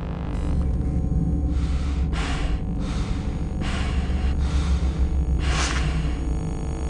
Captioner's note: electronic hum and heavy breathing